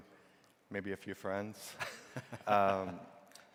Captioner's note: chuckles